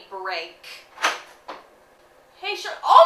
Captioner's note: door opening